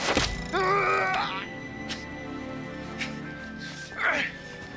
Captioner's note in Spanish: Voss gruñendo